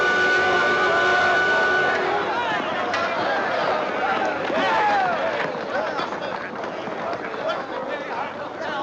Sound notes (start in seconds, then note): 3.1 people chattering